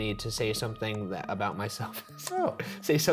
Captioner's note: none